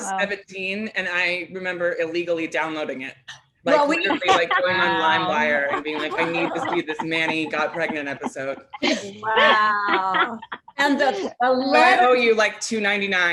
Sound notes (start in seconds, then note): 10.5 chuckles